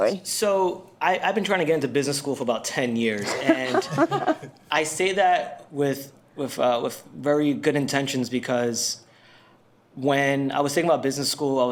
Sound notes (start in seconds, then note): 3.2 panel laughs